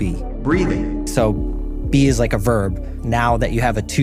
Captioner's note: ARCHIVE CLIP: Breathing